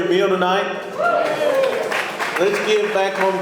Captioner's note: audience cheering